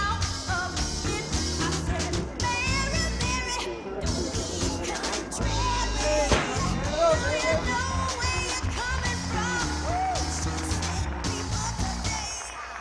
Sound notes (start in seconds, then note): 6.3 gunshot